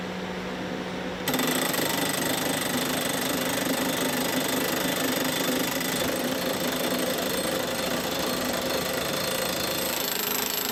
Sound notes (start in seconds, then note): 1.2 rattling hammering